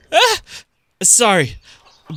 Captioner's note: Simon humming